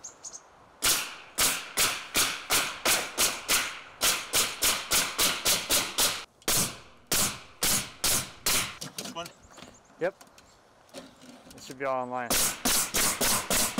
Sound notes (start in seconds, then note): 1.0 metal tapping loudly